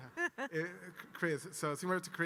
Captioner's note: giggles